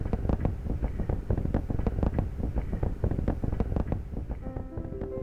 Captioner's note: rocket rumbling